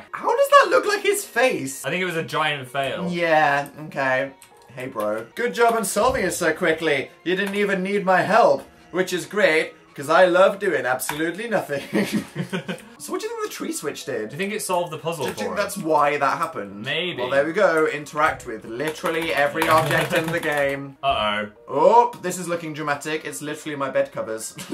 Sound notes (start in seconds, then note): 11.7 both laugh; 17.5 frantic keyboard clicking